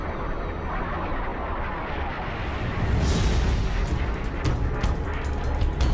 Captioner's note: explosion